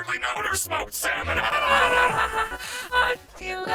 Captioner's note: laughs manically